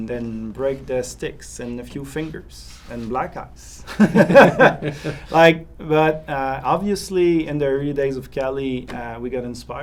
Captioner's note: rire